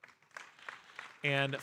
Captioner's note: audience applauding